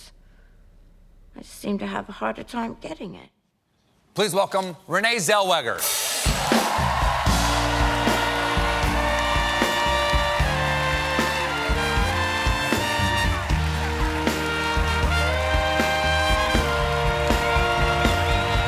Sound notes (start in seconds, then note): 8.1 applause; 13.9 cheers and applause